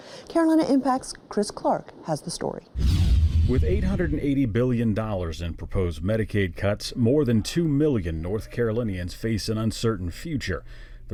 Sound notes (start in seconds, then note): 2.7 rapid whooshing